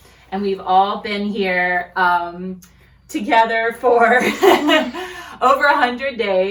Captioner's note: laughs